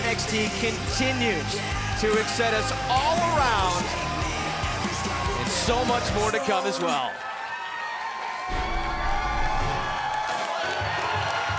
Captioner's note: crowd cheering